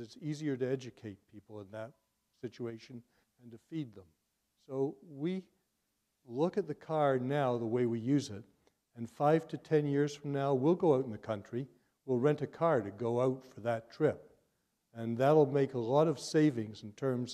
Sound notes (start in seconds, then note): none